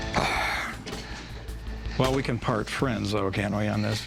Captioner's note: sighs